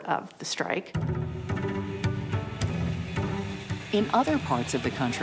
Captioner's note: steam engine hisses